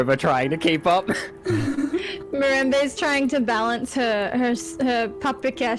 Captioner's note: laugh